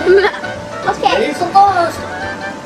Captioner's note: chuckles